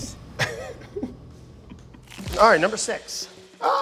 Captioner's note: laughs